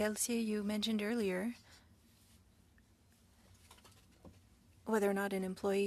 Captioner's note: speaking French